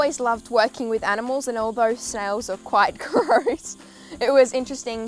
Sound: laughs

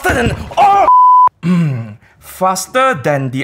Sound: clears throat

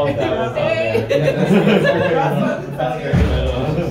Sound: scholars chattering

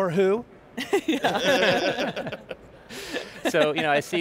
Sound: all laughing

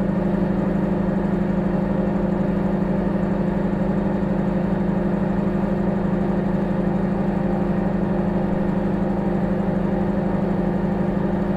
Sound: microwave humming

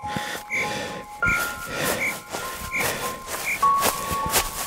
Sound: frantic footsteps in movie; typing

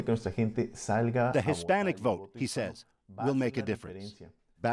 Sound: speaking spanish

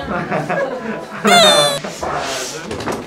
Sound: tears

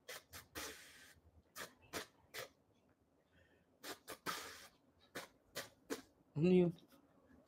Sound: is blowing his nose while making a tune

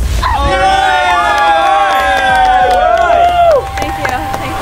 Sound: cheering

